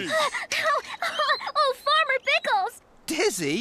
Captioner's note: panting